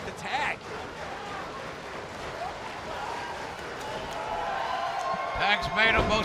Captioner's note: crowd cheering